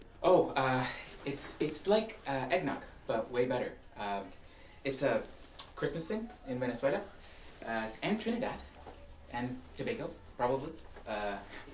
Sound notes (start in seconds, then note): none